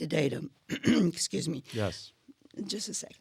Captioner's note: clears throat